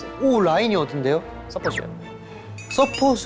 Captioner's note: whisper